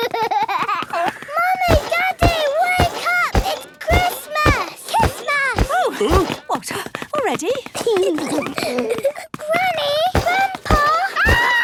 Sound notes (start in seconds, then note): 0.0 George laughing; 5.9 exclamations; 7.4 giggling